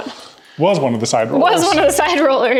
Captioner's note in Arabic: تضحك